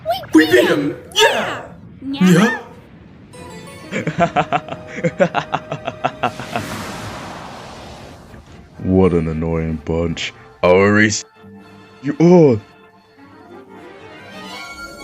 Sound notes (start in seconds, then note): 3.9 Zazel laughs